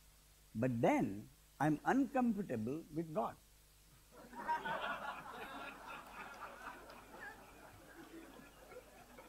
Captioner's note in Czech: smích